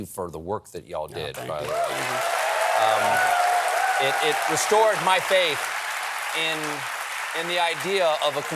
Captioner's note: applause